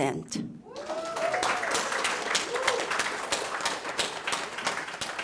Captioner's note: cheers, applause